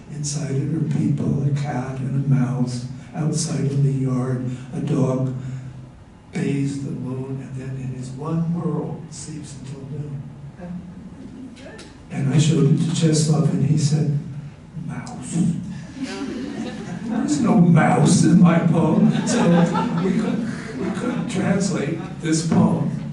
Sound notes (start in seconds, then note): 11.3 laughter